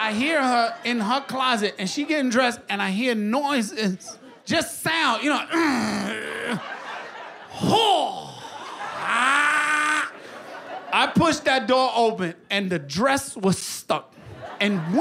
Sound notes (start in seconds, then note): 5.5 grunting